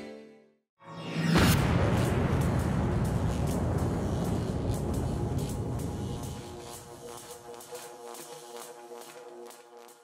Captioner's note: electrical buzzing sounds